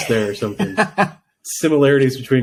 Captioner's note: laughing